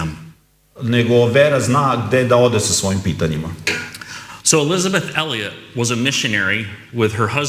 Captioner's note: coughs